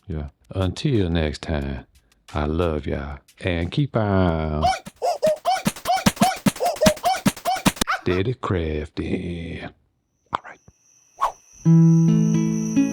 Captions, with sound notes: Yeah, until next time, I love y'all. And keep on. (man grunting) Did it crafty. All right. (gentle music)